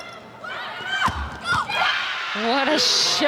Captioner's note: players shouting indistinctly; audience cheering; ball thumping